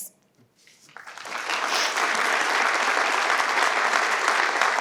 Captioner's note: participants clap